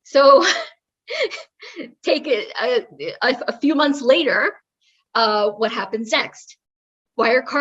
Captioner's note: laugh